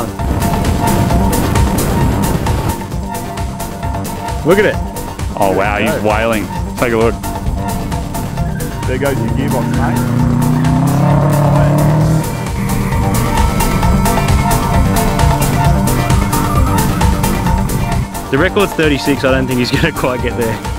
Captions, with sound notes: "Look at it!" "Oh wow, he's whaling!.. take a look!" (Tire screech in the distance) "There goes your gearbox mate!" (Subaru rumble in the distance) "The record's 36, i don't think he's gonna quite get there!"